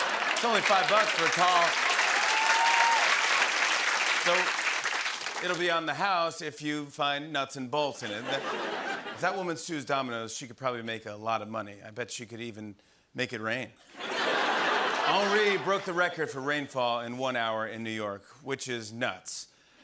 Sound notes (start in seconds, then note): 8.1 laughter; 13.9 laughter and applause